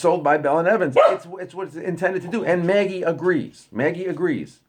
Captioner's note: dog barks